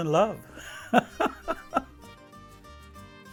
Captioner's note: laughs; exotic guitar music